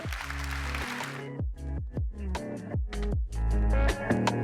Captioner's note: audience clapping